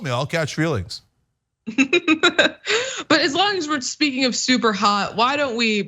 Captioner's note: laugh